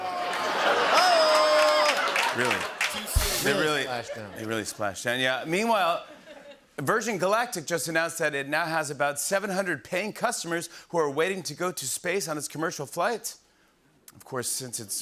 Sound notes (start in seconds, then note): 0.0 groaning and laughter; 0.0 audience ohs; 2.5 cheering and applause; 3.1 rimshot